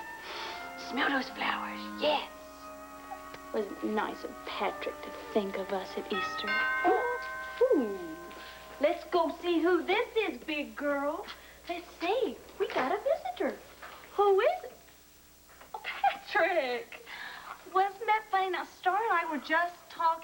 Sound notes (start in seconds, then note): 8.3 doorbell rings